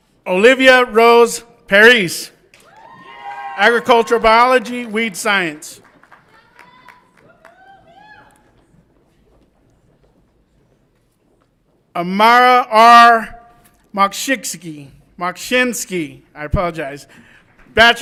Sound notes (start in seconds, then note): 2.6 audience applauds and cheers